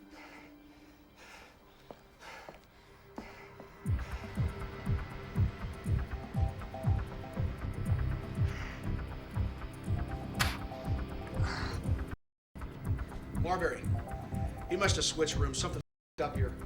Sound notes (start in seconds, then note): 3.8 suspenseful orchestral music; 10.4 spitting